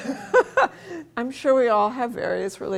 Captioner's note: laughing